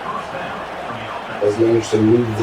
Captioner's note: crowd Noises